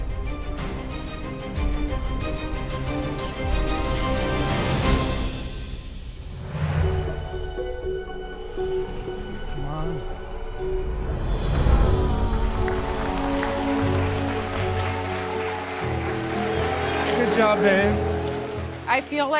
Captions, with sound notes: Come on. ( crowd groans ) Good job, babe. I feel like it was a great dish.